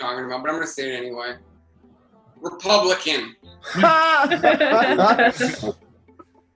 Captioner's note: people laugh